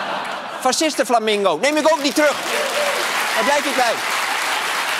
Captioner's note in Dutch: gelach; applaus